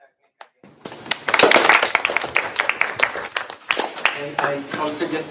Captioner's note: applause